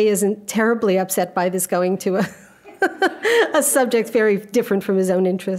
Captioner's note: laughing